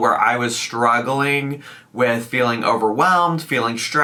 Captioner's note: none